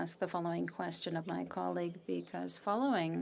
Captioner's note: speaking French